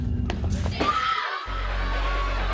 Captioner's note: screams; upbeat music